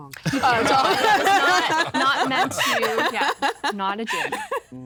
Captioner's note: laughter